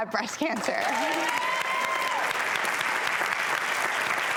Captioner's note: audience applause